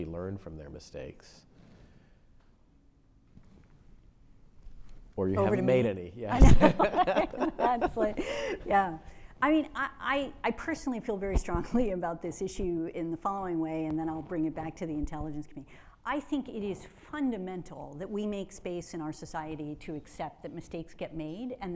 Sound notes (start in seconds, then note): 6.3 Troy and Avril laugh